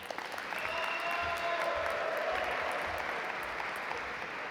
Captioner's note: audience applaud